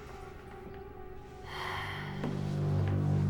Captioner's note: sigh